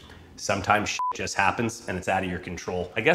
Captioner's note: beep